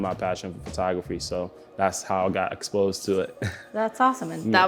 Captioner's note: laughs